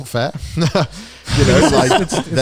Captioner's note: laughs